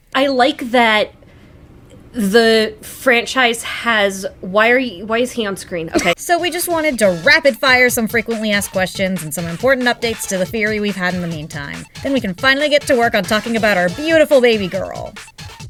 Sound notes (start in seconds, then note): 5.9 laughs